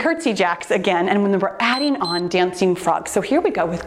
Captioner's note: timer beeps